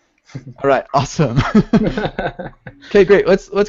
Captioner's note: laughs